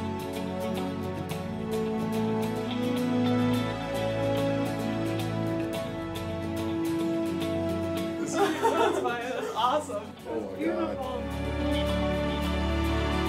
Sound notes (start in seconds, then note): 1.2 laughter